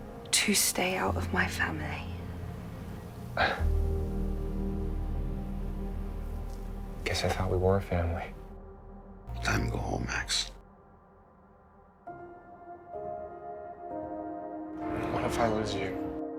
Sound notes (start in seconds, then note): 2.4 Max scoffs; 9.5 voiceover; 15.0 voiceover